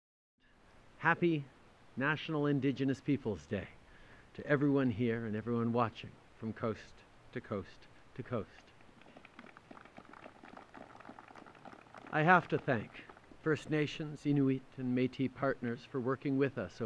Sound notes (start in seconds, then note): 9.0 applause